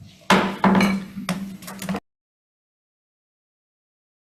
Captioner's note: gavel thudding